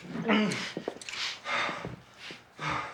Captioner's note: Harvey panting